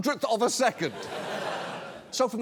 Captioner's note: audience laughing